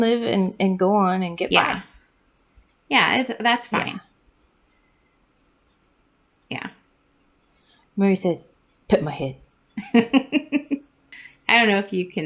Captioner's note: laugh